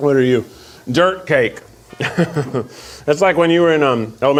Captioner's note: chuckles